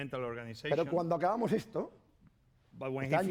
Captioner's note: speaking spanish